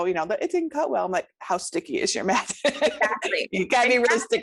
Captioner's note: laughs